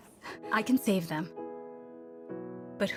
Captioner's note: gentle music; healthcare Worker Voice-Over